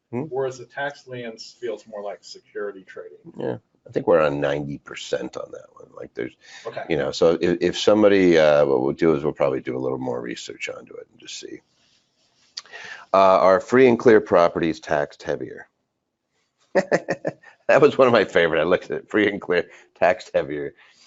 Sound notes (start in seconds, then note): 16.7 laughs